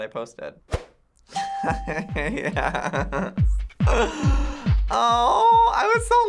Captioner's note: laughs; upbeat music